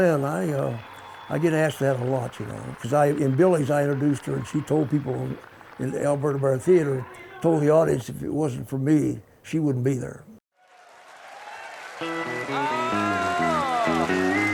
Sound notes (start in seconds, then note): 10.6 applause; 12.0 upbeat country music